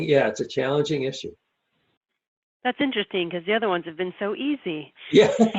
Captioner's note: laughing